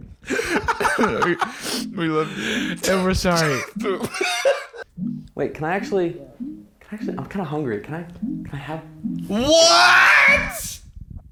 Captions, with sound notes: (through tears) We – we love you. - And we're sorry. - Boom. Wait, can I actually...? I'm kinda hungry. Can I – can I have – ? WHAT?!